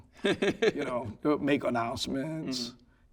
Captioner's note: laughing